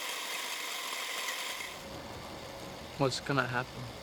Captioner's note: cranking sound fades